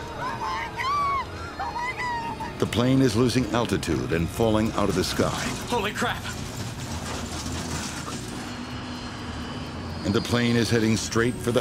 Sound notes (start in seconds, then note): 7.0 engine whistling